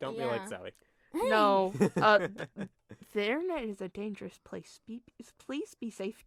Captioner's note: laughter